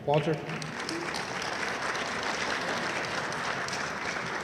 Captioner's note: audience applauding enthusiastically